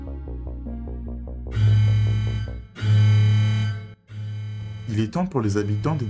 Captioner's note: alarm